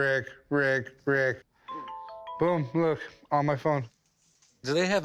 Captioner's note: chiming